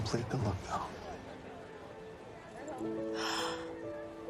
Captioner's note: gasping